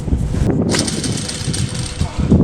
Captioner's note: retches